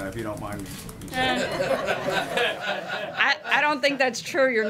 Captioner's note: laughter